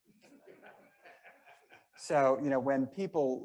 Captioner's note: members laughing